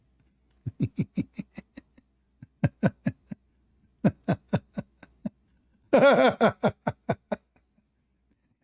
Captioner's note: Ketawa